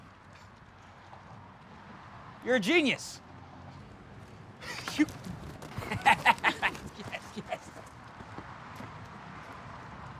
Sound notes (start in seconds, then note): 5.7 laughs